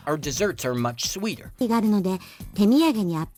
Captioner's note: speaking japanese